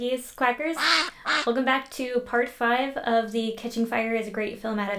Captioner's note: quack